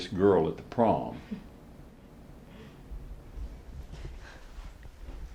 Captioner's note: Isabella chuckles